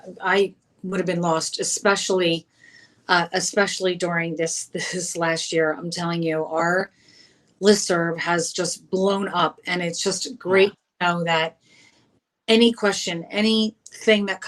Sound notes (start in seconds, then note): none